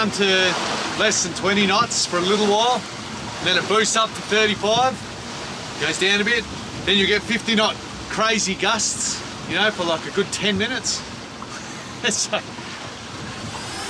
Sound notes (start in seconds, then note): 11.9 laughs